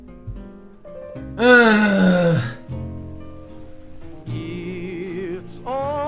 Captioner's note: groaning